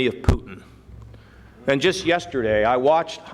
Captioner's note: none